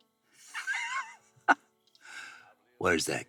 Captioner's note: Joe laughing